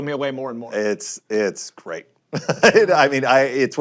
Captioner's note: laughs